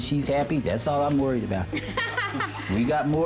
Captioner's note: laughs